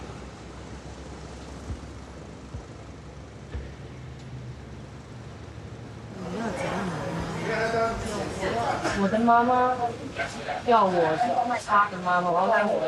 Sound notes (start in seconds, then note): 6.0 people chattering; 8.7 speaking in foreign language